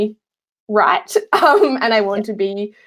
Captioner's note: laughing